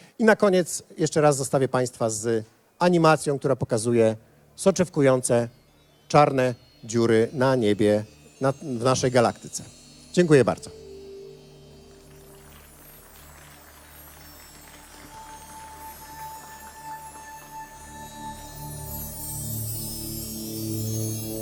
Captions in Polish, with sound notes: I na koniec jeszcze raz zostawię Państwa z animacją, która pokazuje soczewkujące czarne dziury na niebie w naszej galaktyce. Dziękuję bardzo. (oklaski)